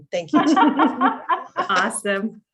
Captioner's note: group laughing